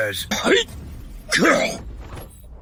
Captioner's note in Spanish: Cof